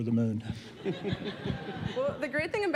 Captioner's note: laughing